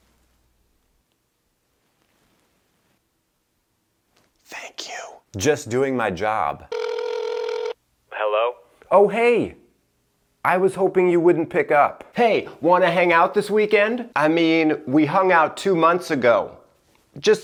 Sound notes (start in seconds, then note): 5.2 whispering; 6.7 phone ringing